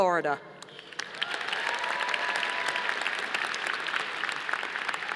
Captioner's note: audience applauding